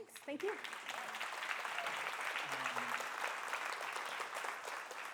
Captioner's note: audience applauding